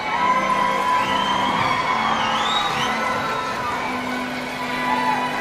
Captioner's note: audience shouting and cheering